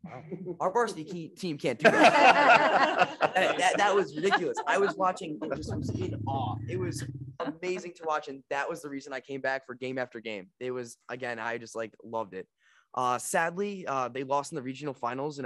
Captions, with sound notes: Our varsity team can't do that. (everyone laughing) That was ridiculous. I was watching and just was in awe. It was amazing to watch and that was the reason I came back for game after game. Again, I just loved it. Sadly, they lost in the regional finals